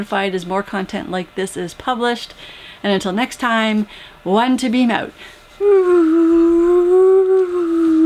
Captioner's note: whooo